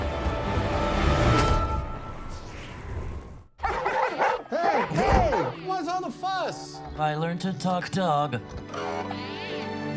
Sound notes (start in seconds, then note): 3.6 Jeff barking; 3.6 Goodyear barking; 8.7 Dewey beeping